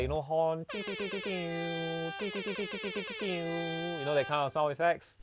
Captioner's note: horn sounds